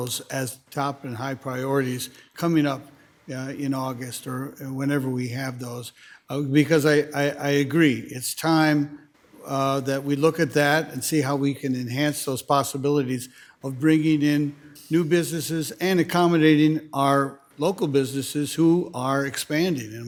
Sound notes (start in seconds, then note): none